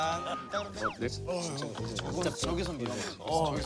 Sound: whispering

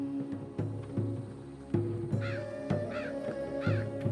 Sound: crow cawing

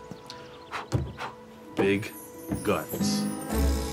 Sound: Ciro blows twice

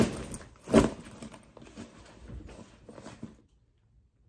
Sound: student thudding; bag rustling

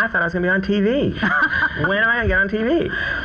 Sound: laughs

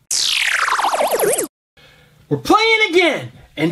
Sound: electronic trilling

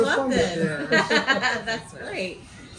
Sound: laughter

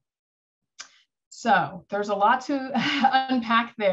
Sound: laughter

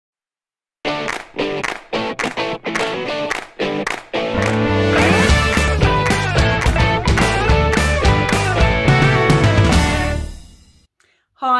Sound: claps

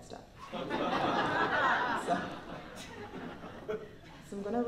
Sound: laughter

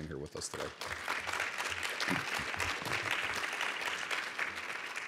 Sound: audience applauds

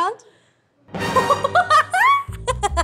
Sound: laughing

